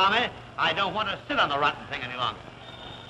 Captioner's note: phone ringing